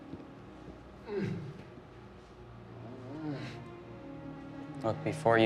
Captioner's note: male executioner grunting